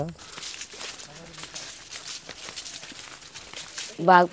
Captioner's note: people walking